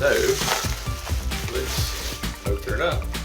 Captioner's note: rustle of packaging